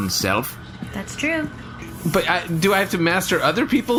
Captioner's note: sweeping